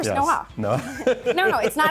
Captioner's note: laughs